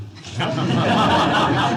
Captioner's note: laughter